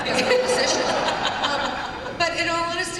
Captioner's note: laughter